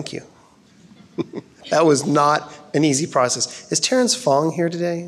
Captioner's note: chuckles